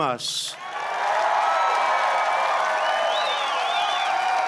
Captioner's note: applause